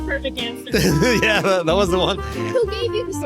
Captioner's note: laughs